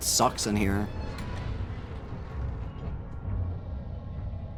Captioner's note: loud hinge squeak